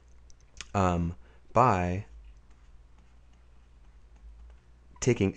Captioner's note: writing